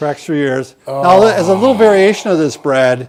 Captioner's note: sighs with relief